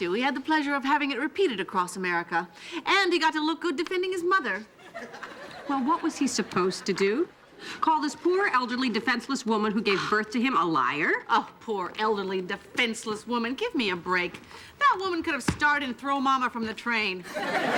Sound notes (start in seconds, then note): 11.6 scoffing